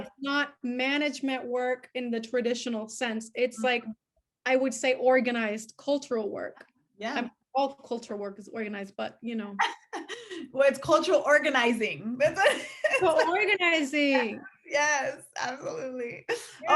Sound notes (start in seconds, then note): 12.3 laughing